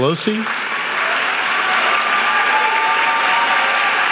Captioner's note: audience applauding